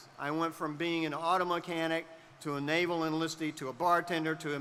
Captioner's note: none